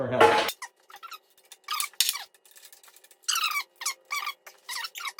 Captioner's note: squeaking